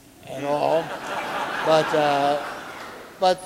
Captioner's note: audience laughing